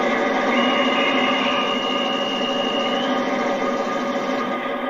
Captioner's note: conductor whistle